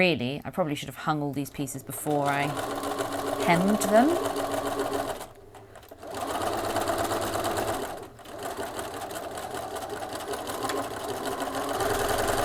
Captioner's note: sewing continues